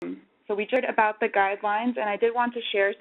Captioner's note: audio skips